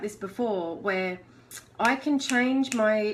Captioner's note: snapping